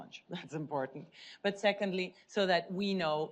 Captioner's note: chuckles